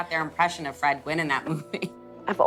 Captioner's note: laughs